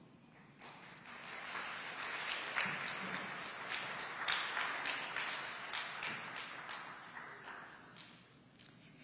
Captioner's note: audience applauding